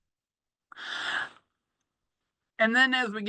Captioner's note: takes a breath